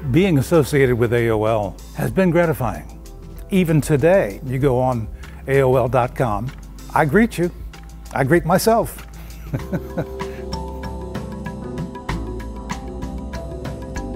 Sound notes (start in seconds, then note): 9.3 laughs; 10.6 relaxing music